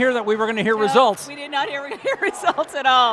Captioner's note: laughing